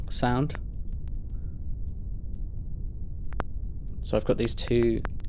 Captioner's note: short glitchy clicks